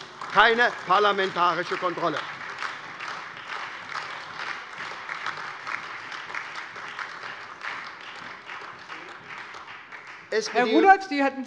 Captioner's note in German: Beifall SPD, AfD, Freie Demokraten und vereinzelt DIE LINKE